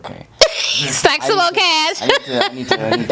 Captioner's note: laughs